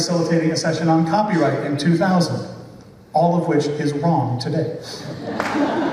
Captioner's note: laughter